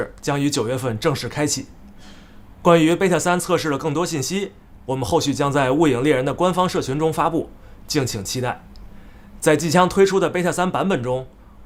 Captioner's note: speaking global language